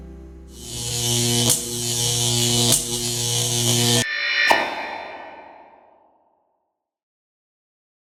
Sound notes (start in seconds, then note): 0.5 video buzzing